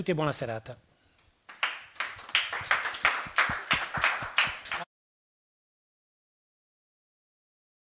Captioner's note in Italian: Applauso